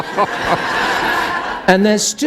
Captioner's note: laughter